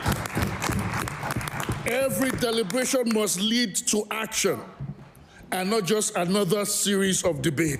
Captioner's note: applause